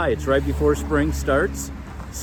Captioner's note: car Engine Noise